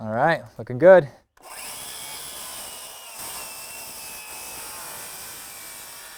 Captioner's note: saw buzzing